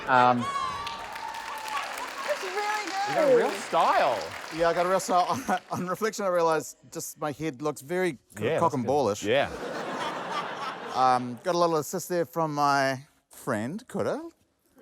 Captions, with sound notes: - (LAUGHTER, APPLAUSE) - It's really good. - You've got a real style. - Yeah, I got a real style. On reflection, I realise just my head looks very cock-and-ball-ish. - Yeah. - (LAUGHTER) - Got a little assist there from my friend Kura.